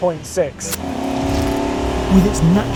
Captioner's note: engine revving